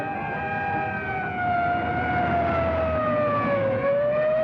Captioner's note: sirens blaring